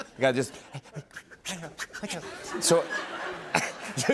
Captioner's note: Imitating Adam Sandler